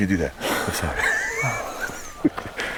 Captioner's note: laughing